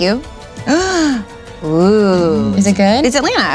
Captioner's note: gasps